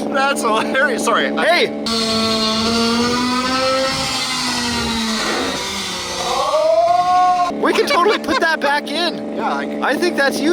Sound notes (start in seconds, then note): 1.9 slow motion engine roaring